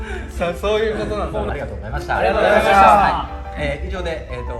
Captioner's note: laughs